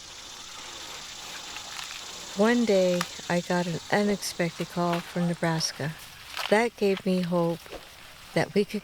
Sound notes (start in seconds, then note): 1.6 birds chirping